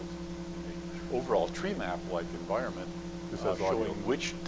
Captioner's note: voiceover